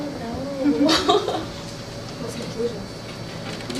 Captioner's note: chuckles